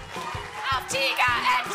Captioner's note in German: Jubel